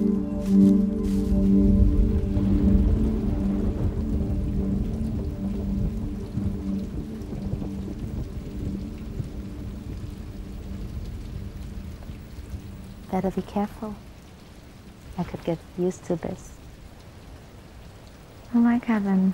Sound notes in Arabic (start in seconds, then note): 0.1 الرعد الهادر; 1.5 تمطر